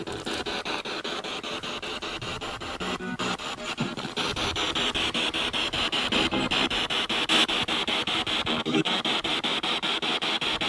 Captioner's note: radio noise from the spirit box